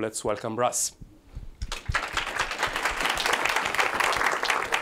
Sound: applause

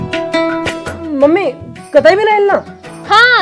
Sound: none

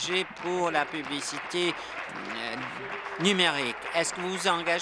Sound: applause

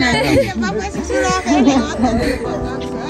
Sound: speeking in Sidama language

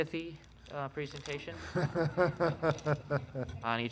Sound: laughing

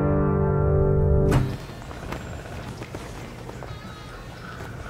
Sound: flag flapping in wind

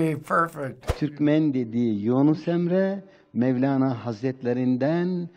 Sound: speaking foreign language

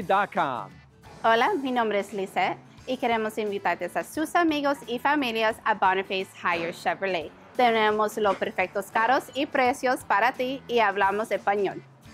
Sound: Spanish

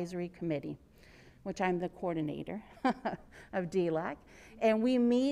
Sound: laughs

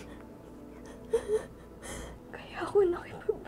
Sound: crying

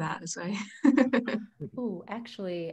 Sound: chuckles

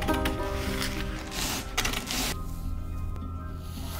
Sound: Shears of Destiny snipping

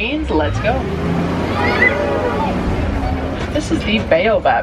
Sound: tram engine whirring

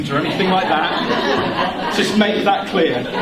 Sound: laughter

